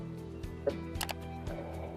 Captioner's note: mouse click